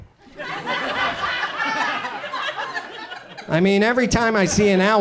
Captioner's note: audience laughs